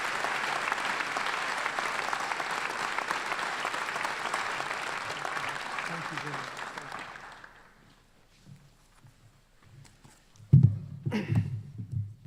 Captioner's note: applause